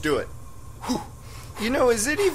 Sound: continued panting; panting

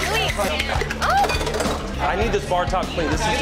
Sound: drink clatters

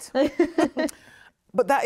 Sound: both chuckle

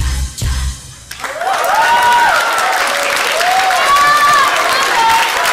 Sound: people applauding, cheering

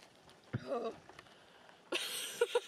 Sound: groans; laughs

